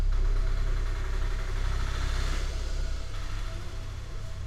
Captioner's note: rikshaw departs